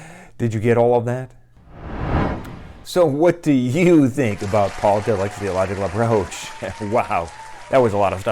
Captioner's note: applause